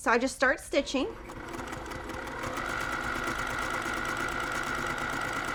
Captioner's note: sewing machine clunking